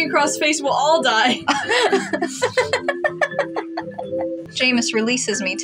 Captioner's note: laugh